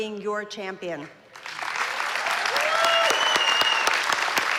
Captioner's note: applause